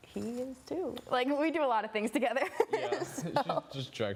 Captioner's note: laughter